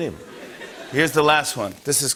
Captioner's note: laughter